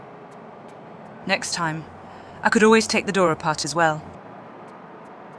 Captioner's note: breath